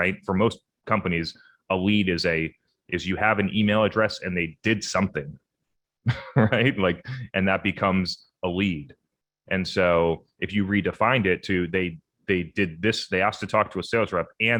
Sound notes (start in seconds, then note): 6.0 chuckles